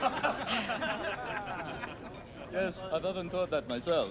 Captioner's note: all laugh